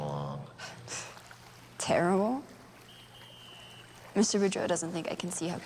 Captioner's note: scoffs